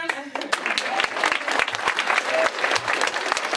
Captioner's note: applause